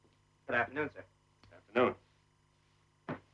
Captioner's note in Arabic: none